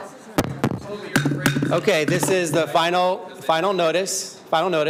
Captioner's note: shouting